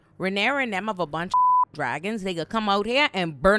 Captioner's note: beep